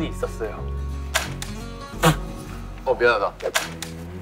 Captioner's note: laughing!